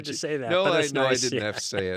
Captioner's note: laughs